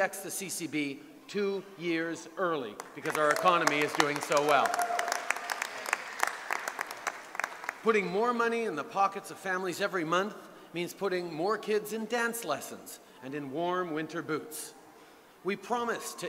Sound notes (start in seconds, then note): 6.3 cheers & applause